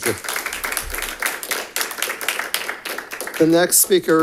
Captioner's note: audience applauding